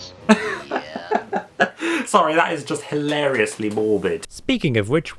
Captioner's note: chuckles